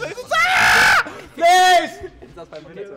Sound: screeching

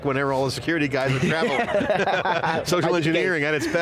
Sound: laughing

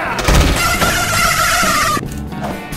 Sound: high pitch laughing

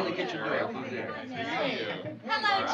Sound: chatter

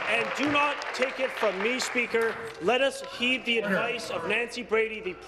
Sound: applause

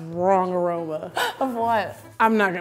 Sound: laughing

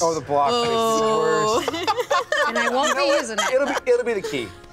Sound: laughs

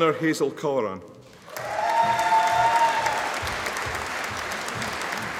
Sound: audience applauding

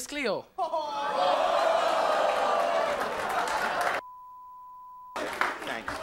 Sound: audience laughing; beep

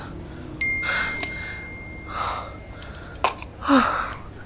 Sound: phone pinging

